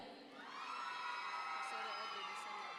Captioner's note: audience members cheer